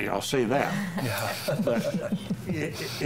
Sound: panelists chuckling

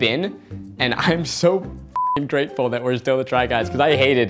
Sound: beep

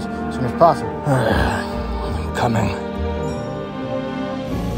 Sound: Alan - irritated sighing

